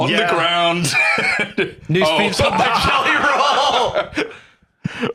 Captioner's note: laughing